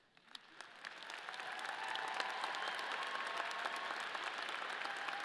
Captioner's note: audience cheering